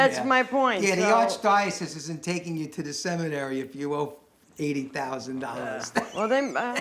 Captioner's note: laughs